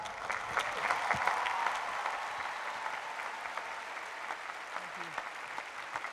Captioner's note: applause